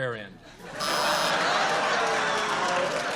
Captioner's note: buzzer